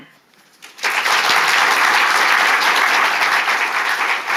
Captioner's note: audience clapping